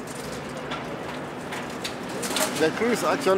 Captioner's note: sound of metal folding